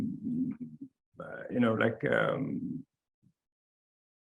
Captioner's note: stammering